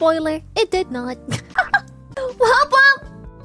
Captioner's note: laughs